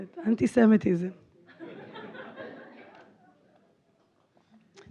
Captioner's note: laughter